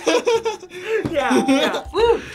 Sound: both laugh; ding

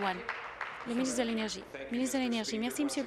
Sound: applause

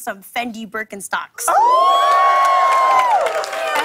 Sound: cheers and applause

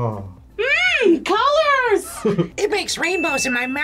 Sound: laughs

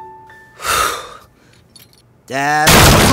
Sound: exhales deeply

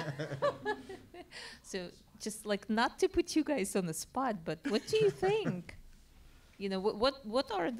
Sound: laugh

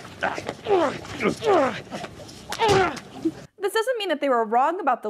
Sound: grunt in pain

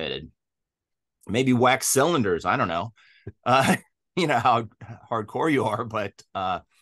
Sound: both laugh

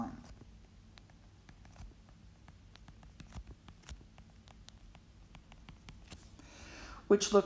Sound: writing

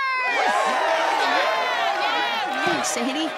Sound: audience cheering

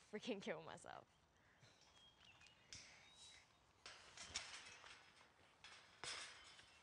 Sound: gate creaking

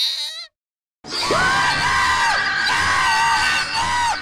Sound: screaming

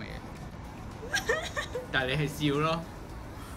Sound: starts laughing

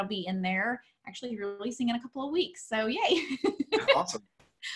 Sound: laughs

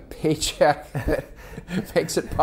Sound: laughing; laughs

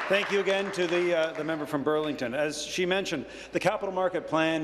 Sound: applause

